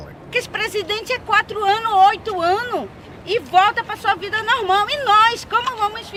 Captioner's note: speaking in Portuguese